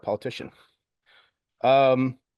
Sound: pause

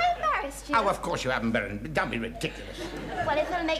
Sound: audience chuckling

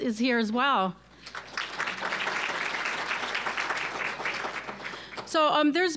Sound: applause

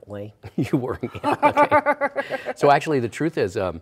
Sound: laughter

